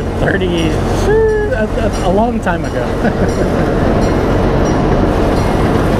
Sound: chuckles

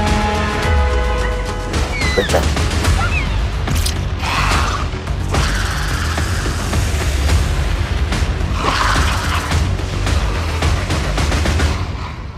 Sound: Dilophosaurus Sounds

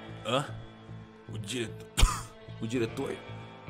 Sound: cough

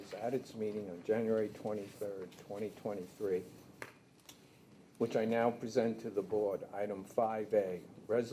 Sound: none

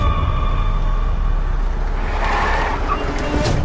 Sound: vehicle Screeching

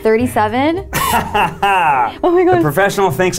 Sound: laughs

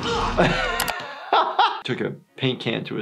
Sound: laughing

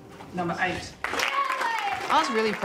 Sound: audience cheering and applauding

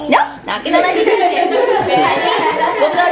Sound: laughter

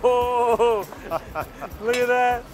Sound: both laughing

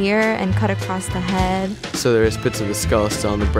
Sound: voiceover

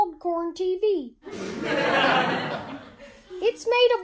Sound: laughter soundtrack

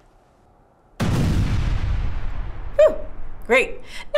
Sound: explosion

